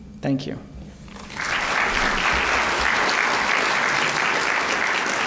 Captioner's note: applause